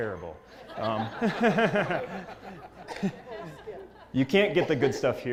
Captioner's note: laugh